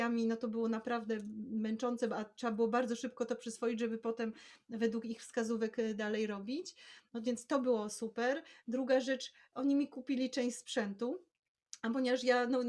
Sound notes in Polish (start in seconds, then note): none